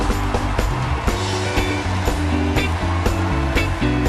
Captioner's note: cheers and Applause